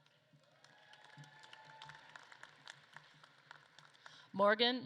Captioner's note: audience claps and cheers